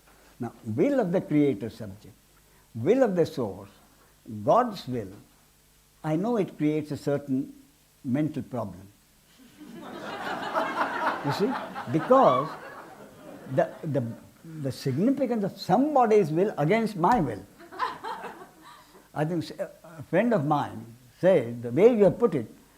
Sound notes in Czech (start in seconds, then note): 9.4 smích